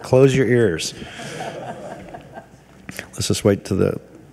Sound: everyone laughing

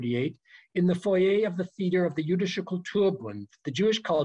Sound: german

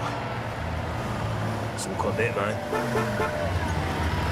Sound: horn honking

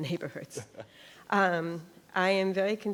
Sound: laughs

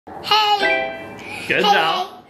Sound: phone beeping

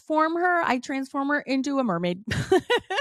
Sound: laughs

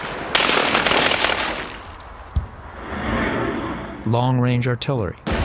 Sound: rapid gunfire

